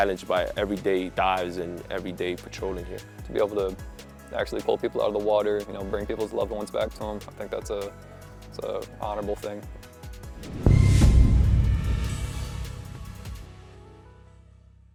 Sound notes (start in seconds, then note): 9.7 background music fades; 10.4 end graphic sound effect play